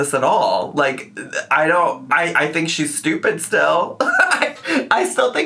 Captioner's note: chuckles